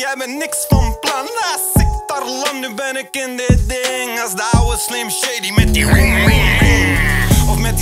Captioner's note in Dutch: motorgeluiden